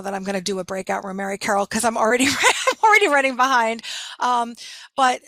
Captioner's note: laughing